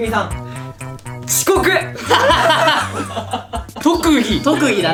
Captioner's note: laughs